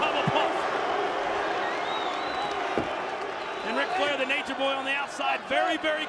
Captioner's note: applause